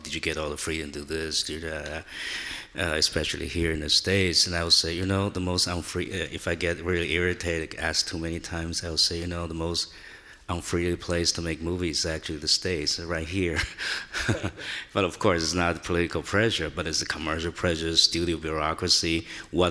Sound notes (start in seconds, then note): 13.5 chuckles